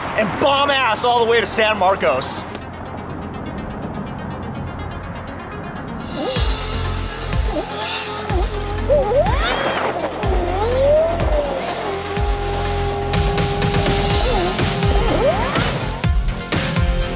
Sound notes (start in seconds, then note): 8.4 car revving; 14.3 exciting music